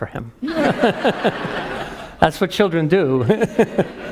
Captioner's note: laugh; laugh